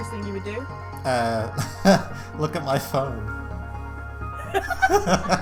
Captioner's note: both laugh; chuckles